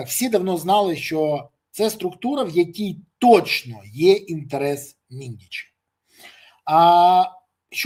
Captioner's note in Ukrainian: сопіння